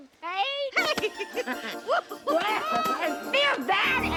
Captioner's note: both laughing